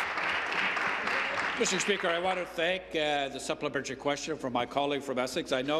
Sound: applause

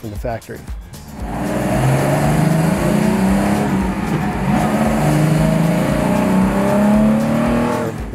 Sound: engine revs, shifts, engine revs again

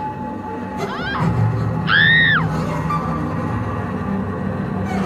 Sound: woman screams

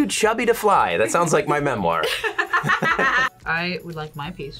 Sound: laughs

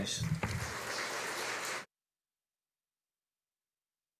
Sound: audience applauding

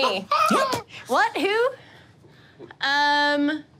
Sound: laughing

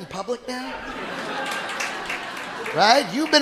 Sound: audience laughing

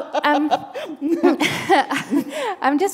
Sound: laughter

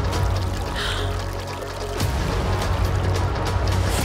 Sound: exclaims

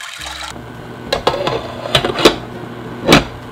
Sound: water pouring; water boiling

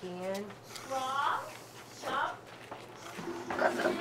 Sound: background chatter

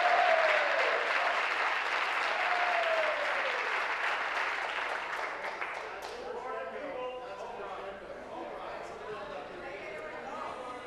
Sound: applause

